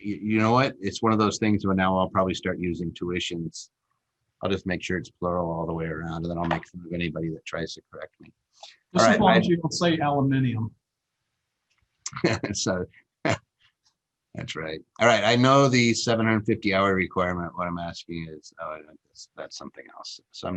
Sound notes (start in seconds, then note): 12.1 laughs